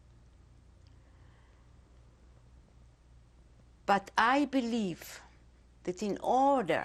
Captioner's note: pauses for 3 seconds